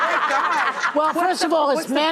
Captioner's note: laughter